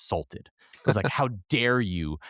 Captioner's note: laughing